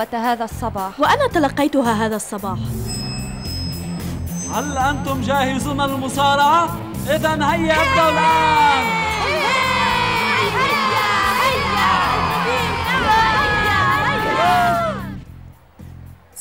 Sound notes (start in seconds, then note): 9.0 bell; 10.8 screaming